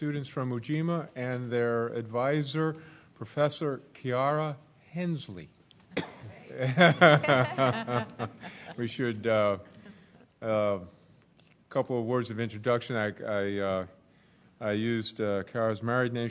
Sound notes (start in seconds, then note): 6.6 laughter